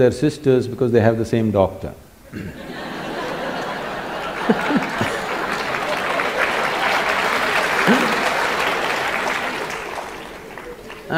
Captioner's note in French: rires / applaudissements